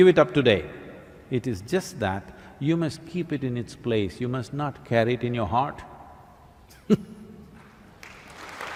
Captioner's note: laughs; applause